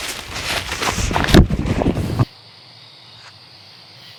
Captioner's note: sounds of a brief struggle